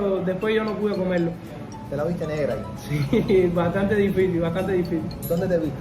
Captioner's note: laughs